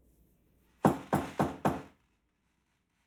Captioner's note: door knocks